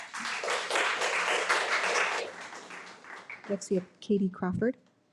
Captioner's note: audience applauding